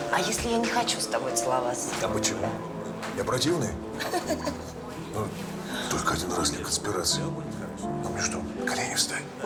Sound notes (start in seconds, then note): 3.9 chuckles